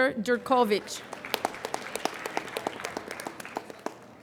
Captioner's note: applauding